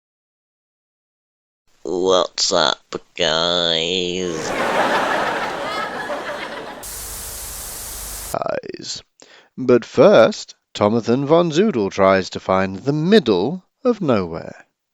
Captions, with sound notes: What's up, guys? [Audience laugh] [Static] -Ize. But first, Tomathon Von Zoodle tries to find the Middle of Nowhere.